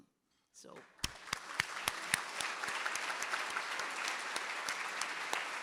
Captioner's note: and audience applauding